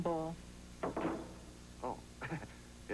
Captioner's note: thud